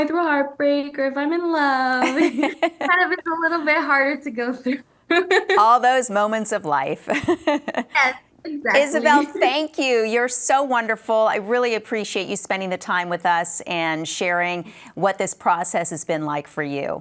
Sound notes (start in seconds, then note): 7.2 laughs